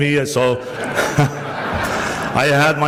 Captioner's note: switches back to English; crowd laughs